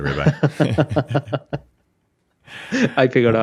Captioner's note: both laugh